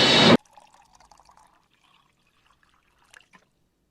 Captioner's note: water trickling